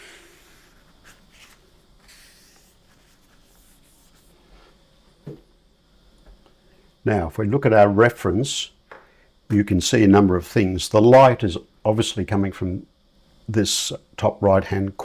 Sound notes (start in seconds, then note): 2.2 silence